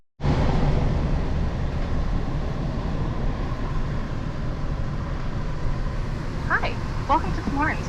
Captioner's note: engine revving